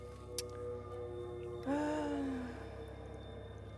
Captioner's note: sigh